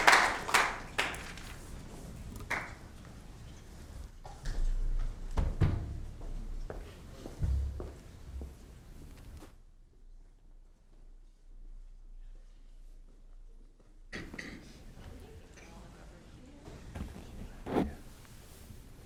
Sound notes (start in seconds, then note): 9.6 applause